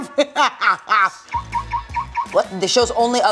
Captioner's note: cackling; car lock beeping